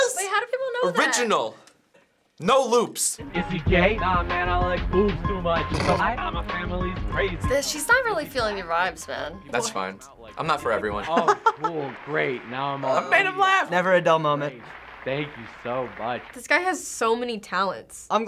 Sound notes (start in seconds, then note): 5.8 snickers; 11.1 chuckles